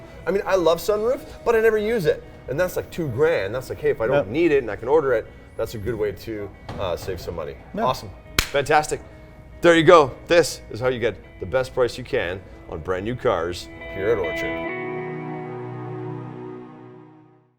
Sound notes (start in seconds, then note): 8.4 claps; 14.6 soft guitar plays